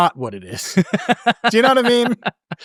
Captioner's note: laughing